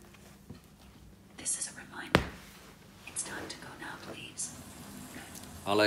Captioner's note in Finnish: whisper